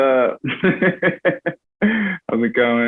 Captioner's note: laughs